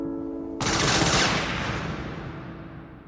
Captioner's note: machine gunfire